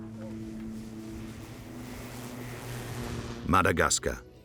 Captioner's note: plane engine whirring